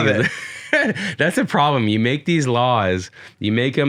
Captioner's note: laughs